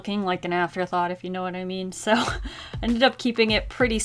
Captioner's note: chuckles